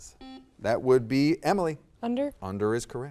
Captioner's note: buzzer dings